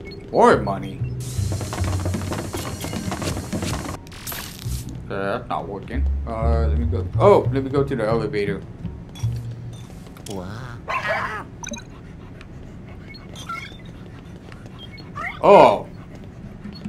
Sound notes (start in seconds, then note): 1.2 rattle sound; 10.4 Luigi screams